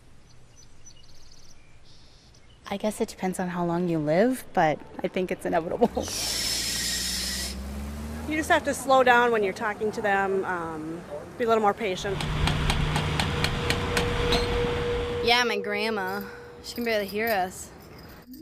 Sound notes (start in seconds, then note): 0.2 birds trilling; 5.8 tires squealing and engine revving; 12.0 whirring and clacking